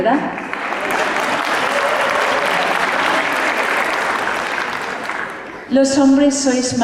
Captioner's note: applause